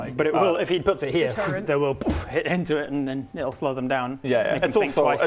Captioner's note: boof!